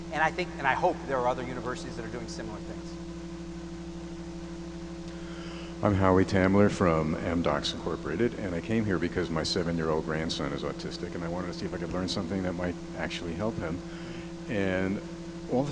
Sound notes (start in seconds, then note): 6.0 voiceover